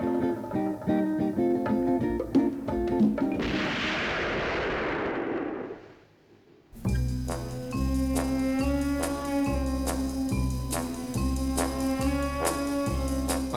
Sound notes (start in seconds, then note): 3.4 gun firing